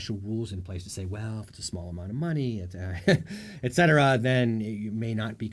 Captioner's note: chuckles